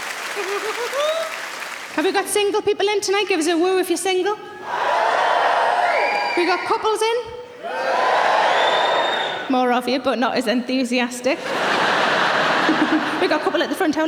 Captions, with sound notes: [SARAH CHUCKLES] Have we got single people in tonight? Gives a woo if you're single. (audience cheering) We got couples in? (audience cheering) More of you, but not as enthusiastic. (audience laughing) We've got a couple at the front.